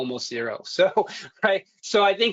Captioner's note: chuckles